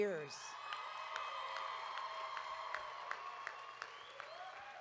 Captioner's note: audience cheering